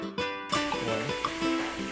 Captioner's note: sizzle